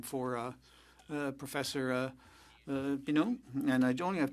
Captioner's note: speaking French